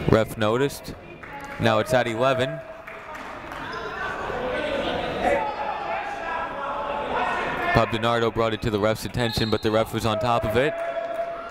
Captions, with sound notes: Ref noticed. Now, it's at 11. (people shouting in the crowd) Bob DiNardo brought it to the ref's attention, but the ref was on top of it.